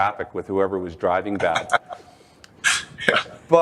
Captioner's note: chuckles